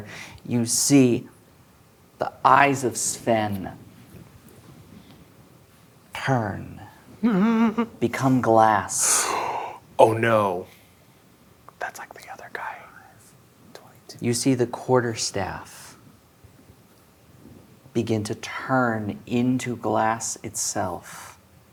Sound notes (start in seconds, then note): 7.2 whimpers; 9.0 gasps; 11.4 whispers; 12.8 quietly